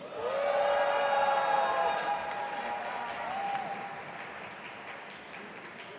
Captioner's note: audience applauding and cheering